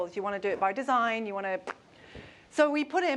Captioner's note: lips pop